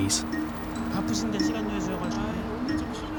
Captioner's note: speaking Korean